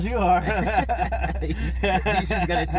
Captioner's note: laughter